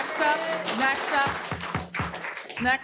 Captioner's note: applause